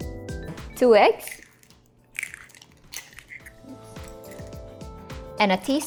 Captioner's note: cracks eggs